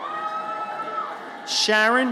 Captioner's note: audience cheers